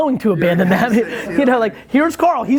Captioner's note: laughing